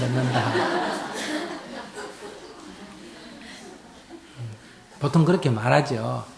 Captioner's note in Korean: 청중 웃음